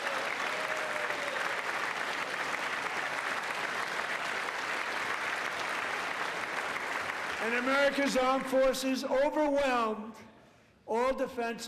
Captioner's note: applause